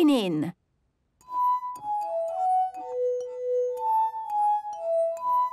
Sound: glasses vibrate to the tune

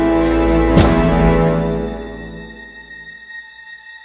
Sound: door opens

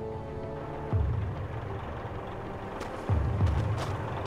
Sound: tank rumbling

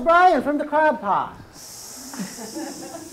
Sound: man is hissing; women are laughing

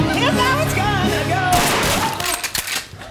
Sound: gun Shot

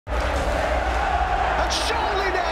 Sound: crowd roaring

